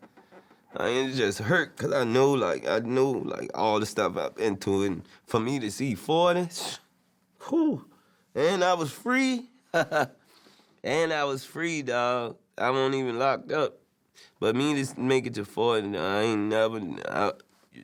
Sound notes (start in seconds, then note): 6.6 scoffs; 9.7 laughs